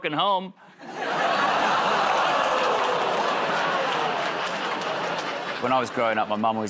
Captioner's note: laughter, groaning